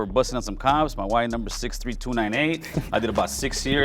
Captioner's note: laughs